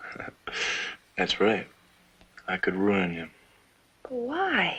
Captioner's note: chuckling